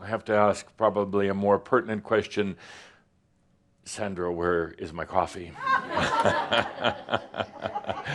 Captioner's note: laughter